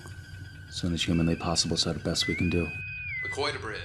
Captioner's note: Bridge com sounds